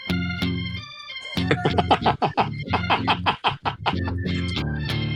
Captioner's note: laughter